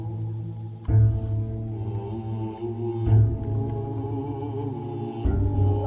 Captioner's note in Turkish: Fatiha okuyor